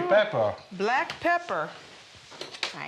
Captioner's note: speaking Italian